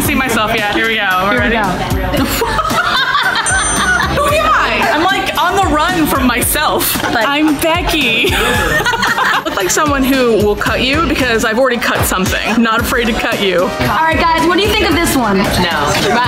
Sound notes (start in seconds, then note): 8.2 laughs